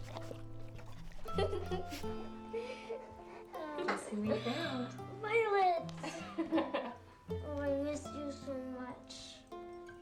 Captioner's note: giggles